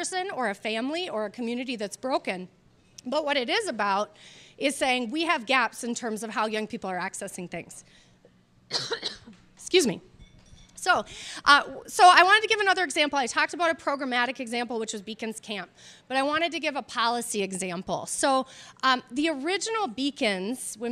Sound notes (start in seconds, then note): 8.7 coughs